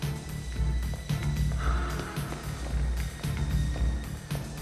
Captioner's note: footsteps tapping